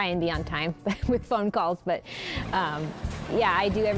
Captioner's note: laughs